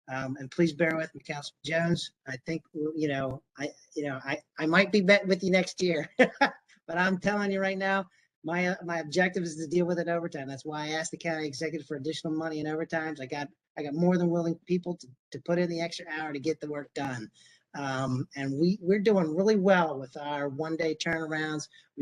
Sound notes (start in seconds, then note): 6.0 laughter